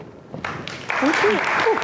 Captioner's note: applause